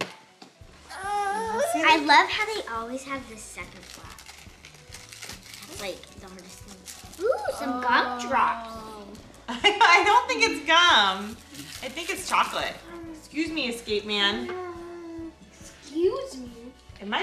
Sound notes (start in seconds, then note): 3.4 papers crumbling; 9.6 laughing